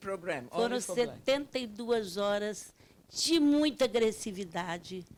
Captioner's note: speaking Portuguese